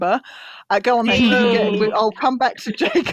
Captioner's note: booing